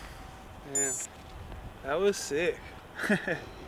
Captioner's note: laughs